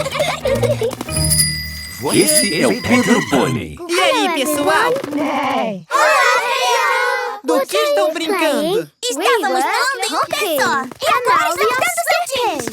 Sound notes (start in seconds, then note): 1.0 bike bell; 5.0 neigh